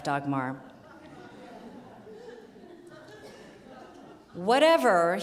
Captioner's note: audience laughing